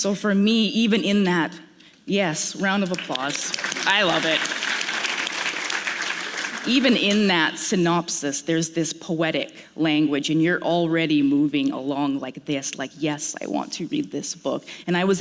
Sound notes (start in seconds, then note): 5.6 applause